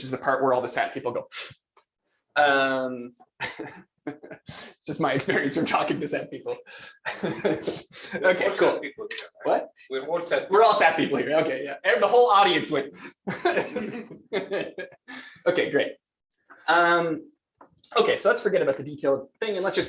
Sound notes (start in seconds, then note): 3.4 laughs; 6.9 laughs; 13.0 laughter; 13.2 gasp